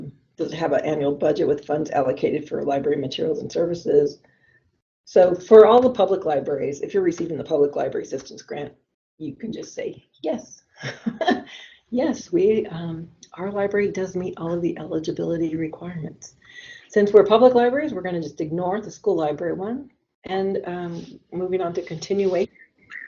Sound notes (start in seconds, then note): 10.6 laughs